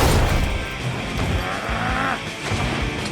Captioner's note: growls